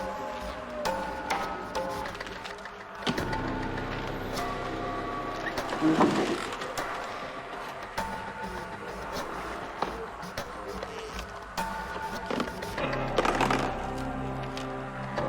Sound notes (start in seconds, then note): 2.9 cooler thudding